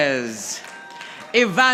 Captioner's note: audience applauding